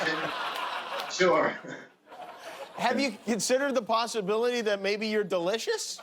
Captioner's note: laughter